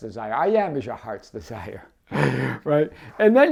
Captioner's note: laughs